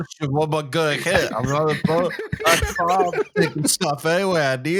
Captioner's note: laughs